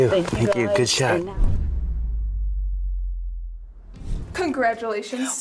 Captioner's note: logo whooshes